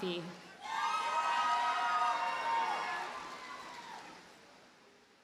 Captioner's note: audience cheers and applauds